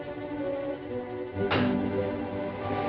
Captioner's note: metal clangs